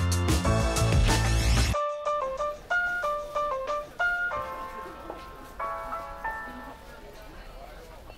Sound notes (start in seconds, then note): 2.2 people chattering